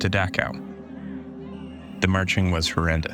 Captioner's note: voices clamoring, whistles blowing